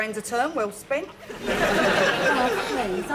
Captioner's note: audience laughing